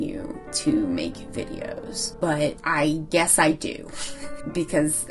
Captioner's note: chuckles